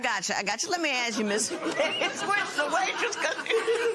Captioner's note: laughter